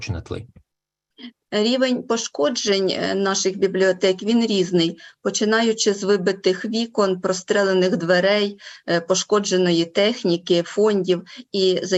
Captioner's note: foreign Language Spoken